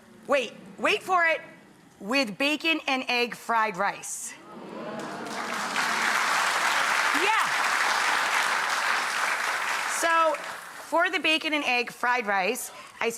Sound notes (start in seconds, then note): 4.9 audience applauds